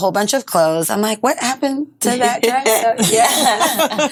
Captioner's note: all laughing